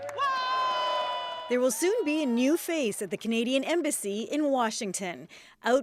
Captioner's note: applause